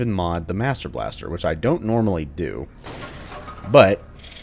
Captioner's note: smash